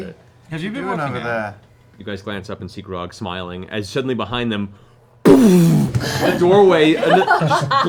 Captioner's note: crashing